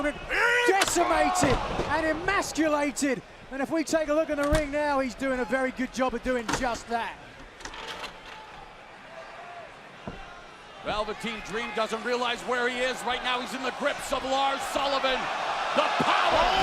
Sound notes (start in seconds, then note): 7.1 crowd chatter